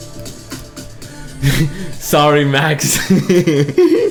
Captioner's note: laughs